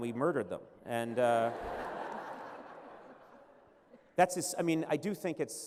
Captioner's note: laughter